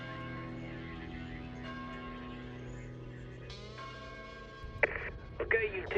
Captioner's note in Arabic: يقرع جرس الكنيسة